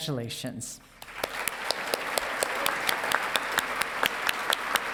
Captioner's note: audience clapping